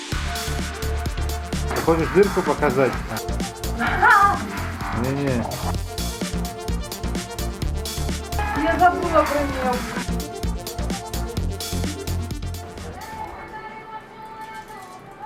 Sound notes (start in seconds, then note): 3.6 laugh